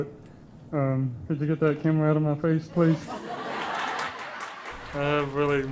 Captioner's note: laughter